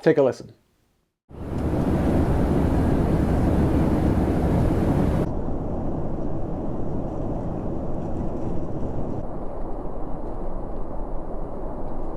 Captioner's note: sothing airplane noises